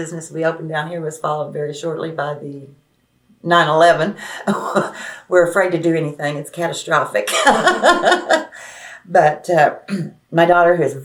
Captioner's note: laughs